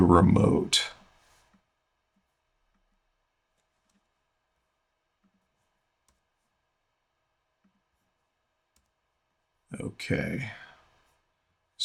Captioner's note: silence